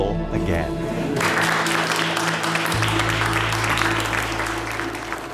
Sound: applause

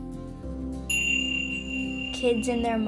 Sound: tingsha chime

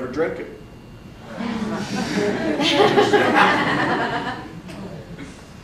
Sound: audience laughs

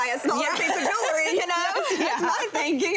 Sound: laughing

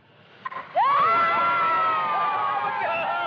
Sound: all Cheering

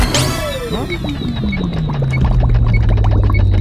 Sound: bomb ticking

